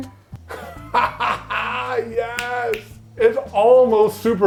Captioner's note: laughs; fingers snapping